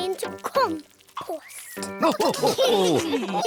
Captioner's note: all laugh